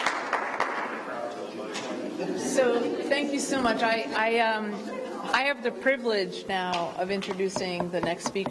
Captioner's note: applause